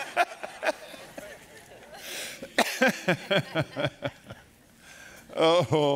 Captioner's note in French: rires